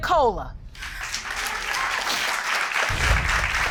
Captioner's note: audience clapping